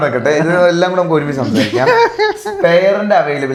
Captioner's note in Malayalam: പൊട്ടിച്ചിരി